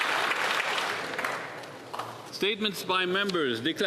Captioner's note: applause